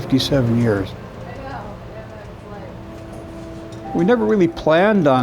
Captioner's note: murmuring